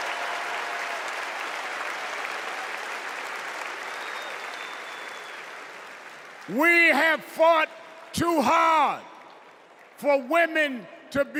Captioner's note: cheers and applause